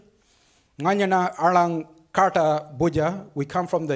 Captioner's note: speaks foreign language